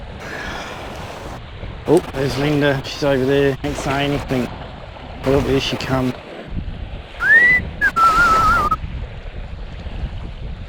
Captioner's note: whistling